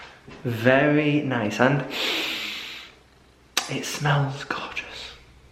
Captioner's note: breathes in